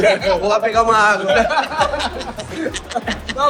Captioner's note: laughter